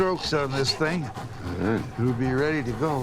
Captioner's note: chuckles